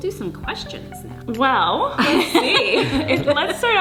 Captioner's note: laughing